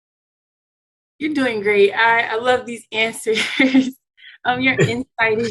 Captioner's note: laughter